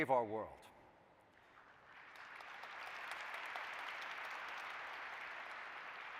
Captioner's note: applause